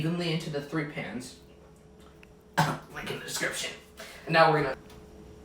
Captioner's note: cough